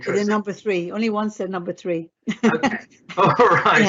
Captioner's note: laughs